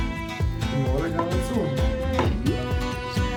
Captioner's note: in Armenian